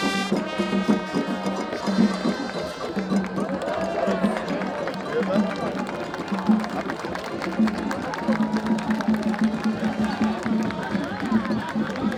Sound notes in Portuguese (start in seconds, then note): 3.4 Aplausos